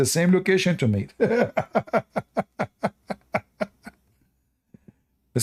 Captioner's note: Ketawa